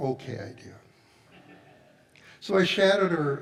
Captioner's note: audience laughs